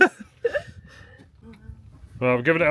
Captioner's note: laughs